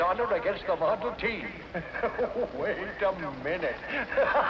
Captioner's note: laughs